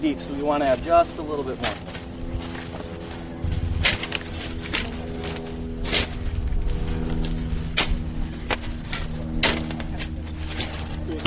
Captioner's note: audience speaking